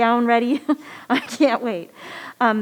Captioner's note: chuckles